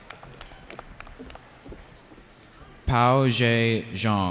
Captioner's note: cheering